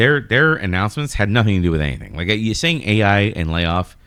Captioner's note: uh